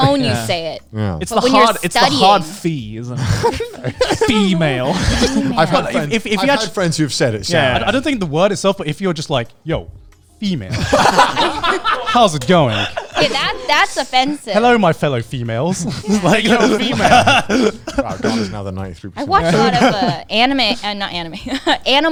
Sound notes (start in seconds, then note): 3.2 laughing; 10.7 all laughing